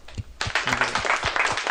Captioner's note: applause